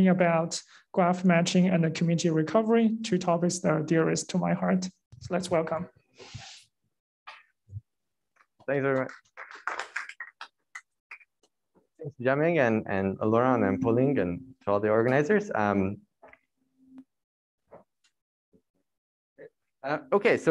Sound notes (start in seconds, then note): 6.8 applause